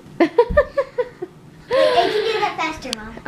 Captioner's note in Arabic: يضحك